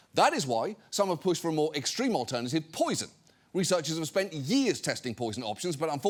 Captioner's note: none